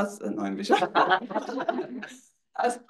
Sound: attendees laughs

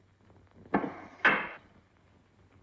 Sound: door Closes

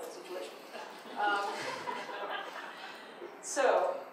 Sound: audience laughs

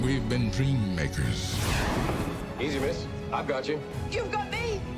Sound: Superman whooshing

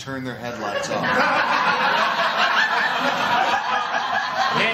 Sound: laughter

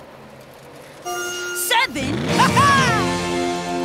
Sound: laughs

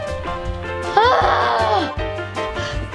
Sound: sighs loudly; playful music

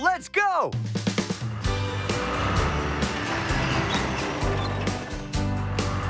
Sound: engines Rumbling

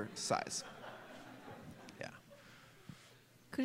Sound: laughter

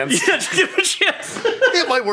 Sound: laughs

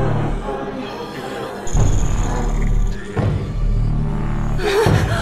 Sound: growling

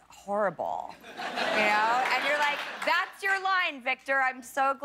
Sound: laughter

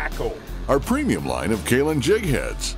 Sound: voiceover

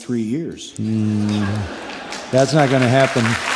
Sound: applause

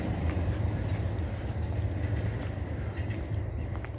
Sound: feet crunching

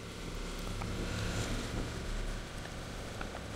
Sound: engine

